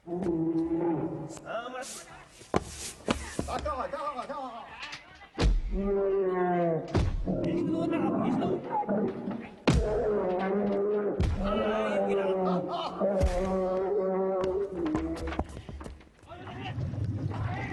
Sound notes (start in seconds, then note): 3.5 speaking in foreign language; 5.4 bear roaring in pain as it's beaten